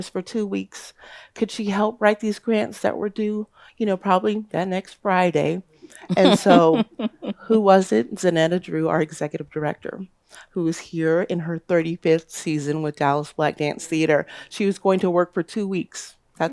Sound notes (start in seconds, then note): 5.9 laughs